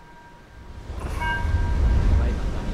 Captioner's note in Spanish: Pitido